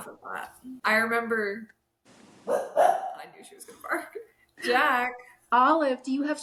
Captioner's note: Olive barks